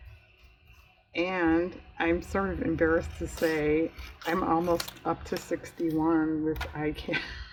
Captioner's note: laughs